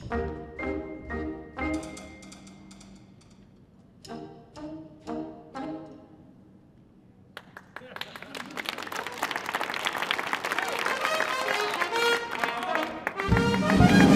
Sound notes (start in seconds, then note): 7.3 audience applauding; 11.0 upbeat music